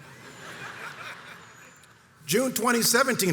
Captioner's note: crowd chuckles